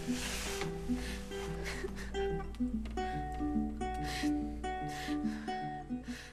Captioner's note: sobbing